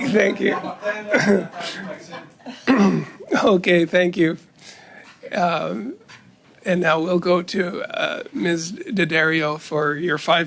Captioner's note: laughter